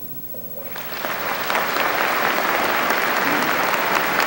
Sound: applause

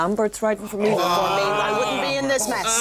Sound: groans

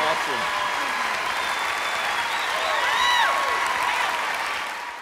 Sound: cheers and applause

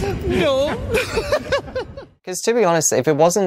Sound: laughs

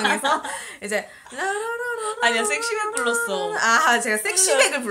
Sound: laugh; humming

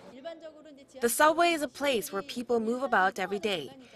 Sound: Korean

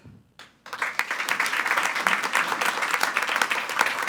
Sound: attendees applauding

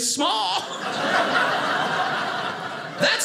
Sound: audience laughing

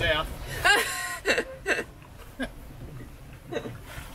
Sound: laughing

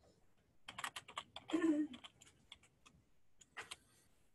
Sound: keyboard typing

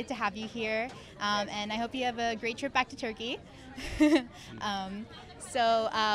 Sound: laughs

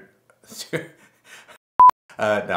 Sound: beep

